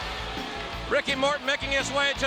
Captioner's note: crowd cheering